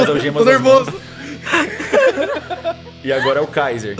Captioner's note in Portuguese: Todos riem